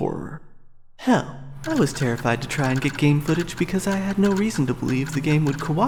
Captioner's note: PC drive clicks, desperately trying to communicate